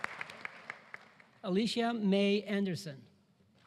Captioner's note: applause